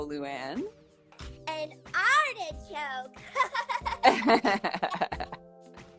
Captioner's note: laughing